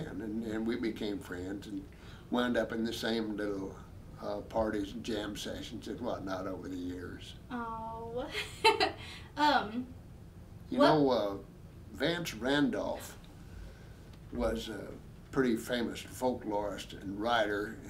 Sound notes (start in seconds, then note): 8.9 laughing